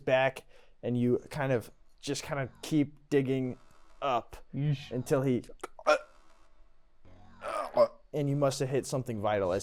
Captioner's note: struggling